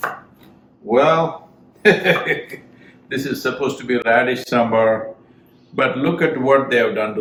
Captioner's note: laughs